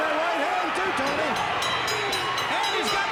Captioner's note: bell rings